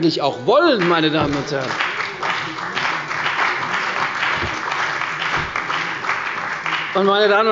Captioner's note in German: Beifall bei der CDU und dem BÜNDNIS 90/DIE GRÜNEN